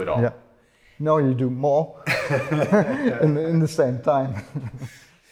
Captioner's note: laughs